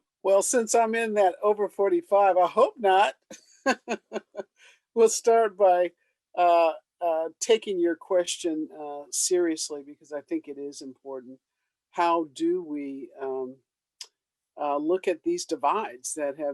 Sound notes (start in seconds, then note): 3.7 laughs